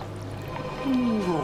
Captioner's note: grumbling